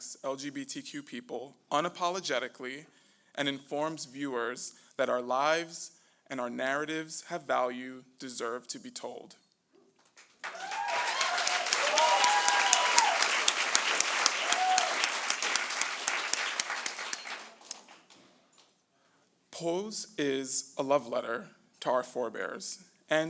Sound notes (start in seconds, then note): 10.4 cheering